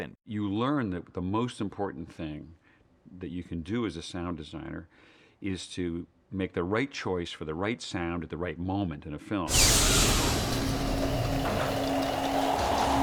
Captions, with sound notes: You learn that the most important thing that you can do as a sound designer is to make the right choice for the right sound at the right moment in a film. (WHOOSHING)